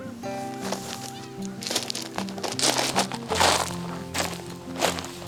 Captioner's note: footsteps on rocks